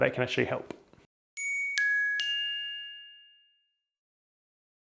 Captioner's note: bell rings